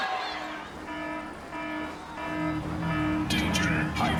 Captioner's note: alarm blaring